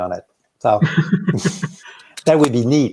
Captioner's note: both laughing